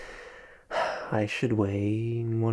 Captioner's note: Kyle exhales